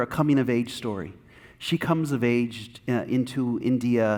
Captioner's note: none